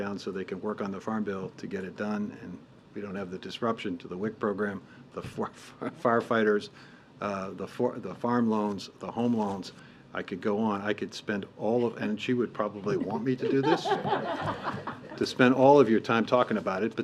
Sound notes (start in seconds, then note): 12.7 laughter